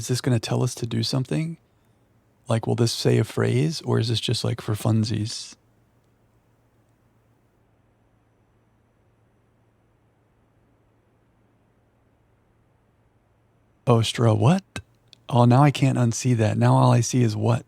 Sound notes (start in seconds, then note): 7.1 silence